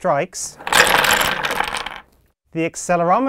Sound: blocks clatter

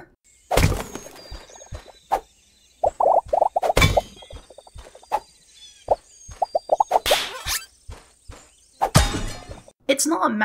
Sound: chopping Noises

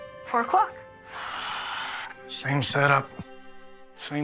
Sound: sighs

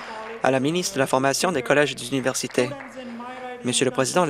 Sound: applause

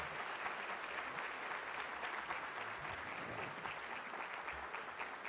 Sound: applause

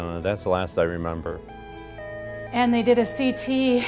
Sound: ambulance siren

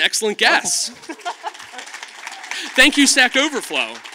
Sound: audience claps

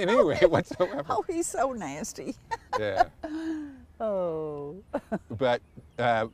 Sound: laughter

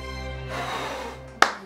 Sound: blows; claps

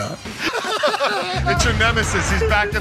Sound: laughing

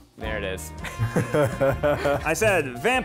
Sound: laughter

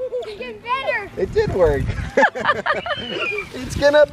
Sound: laugh

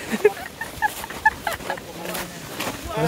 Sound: evil laugh

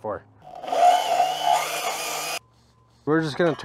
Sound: saw whirs

